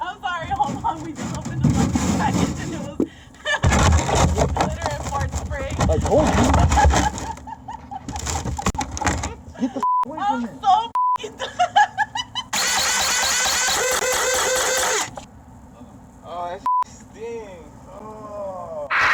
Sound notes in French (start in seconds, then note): 3.4 le voleur rit; 6.5 le voleur rit; 11.3 le voleur rit; 12.5 la pompe grince